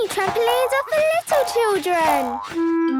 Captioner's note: squeaks